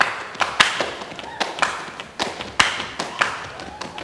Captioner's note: audience applauding and cheering; tapping